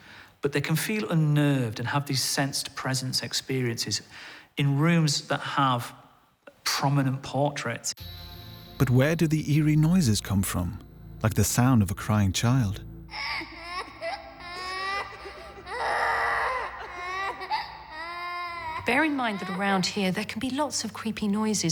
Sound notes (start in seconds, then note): 15.2 crying noises